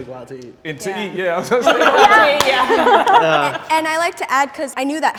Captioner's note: laughing